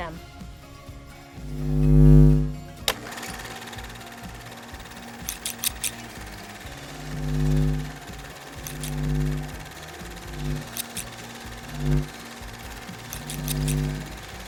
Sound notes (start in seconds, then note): 0.1 upbeat music; 1.6 light buzzes and movie reel spins; 5.2 scissor blades slice